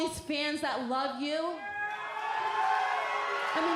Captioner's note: cheers and applause